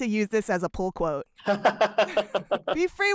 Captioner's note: laughter